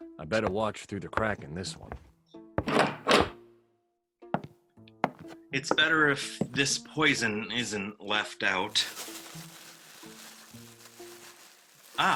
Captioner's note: footsteps in the hall; door opens; rustling